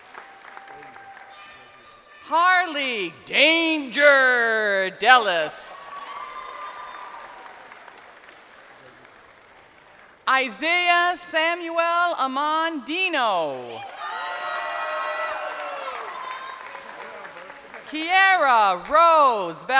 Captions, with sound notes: (crowd applauding) Harley Danger Dellise. (crowd cheering) Isaiah Samuel Amon Deno. (crowd cheering)